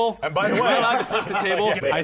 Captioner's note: laughter